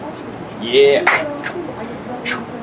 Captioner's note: hands slapping